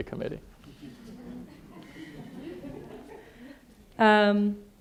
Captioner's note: audience laughing